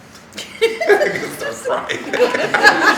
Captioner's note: laughing